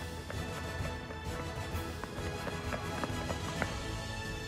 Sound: fast footsteps

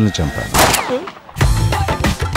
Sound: gun shot

